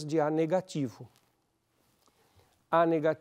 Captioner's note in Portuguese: pausa sonora